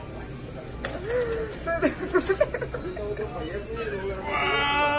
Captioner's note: giggling